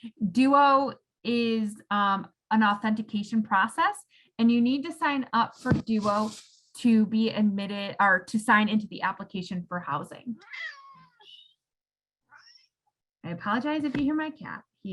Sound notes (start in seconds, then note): 10.4 cat meows